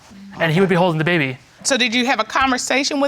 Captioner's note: none